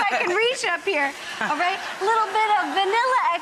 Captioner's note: laughter